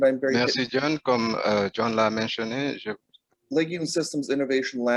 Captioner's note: speaking in foreign language